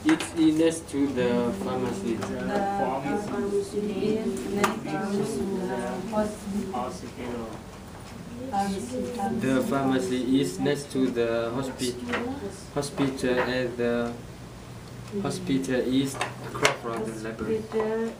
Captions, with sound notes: - It is next to the pharmacy. - [Voiceover] The pharmacy is next to the hospital. - The pharmacy is next to the hospital and the hospital is across from the library.